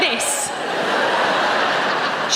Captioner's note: audience laughing